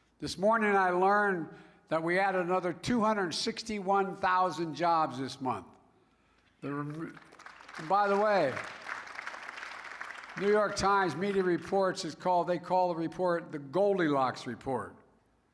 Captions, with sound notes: This morning I learned that we added another 261,000 jobs this month. (Applause.) There were -- and, by the way, the New York Times media reports is called -- they call the report the "Goldilocks" report.